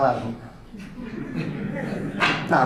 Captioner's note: audience laughter